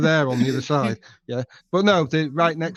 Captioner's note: laughing